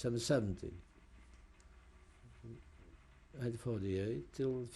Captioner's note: pauses for 3 seconds